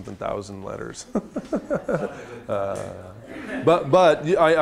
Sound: chuckling

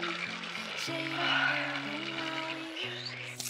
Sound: sighs

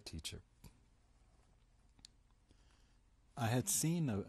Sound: pauses for 3 seconds

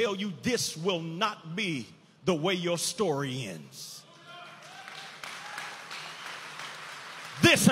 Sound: audience applauding

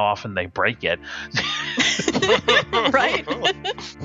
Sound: laughing

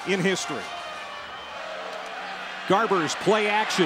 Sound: crowd cheering

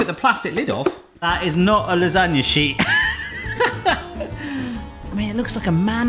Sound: laughs

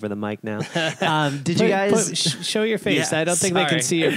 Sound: laughter

